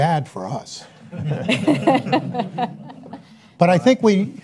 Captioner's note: laughs